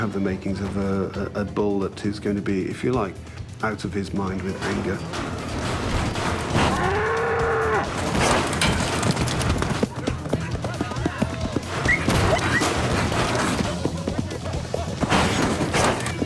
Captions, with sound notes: You have the makings of a bull who's gonna be out of his mind with anger. (bull bellowing) (banging)